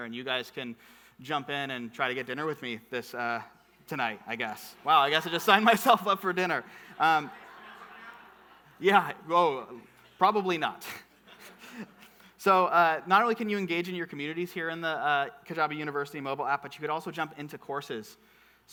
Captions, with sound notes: And you guys can jump in and try to get dinner with me, this tonight, I guess. Wow, I guess I just sign myself up for dinner. (audience murmuring) Yeah, well probably not. So not only can you engage in your communities here in the Kajabi University Mobile App, but you could also jump into courses.